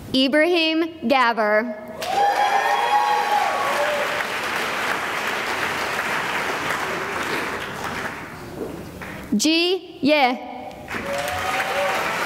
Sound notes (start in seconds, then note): 2.0 cheering and applause; 10.8 applause